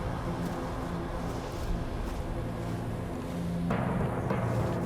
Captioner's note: footsteps